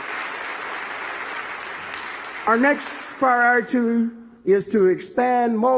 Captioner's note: applause